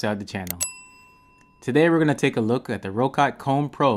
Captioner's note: bell rings